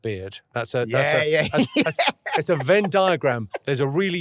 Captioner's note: laughing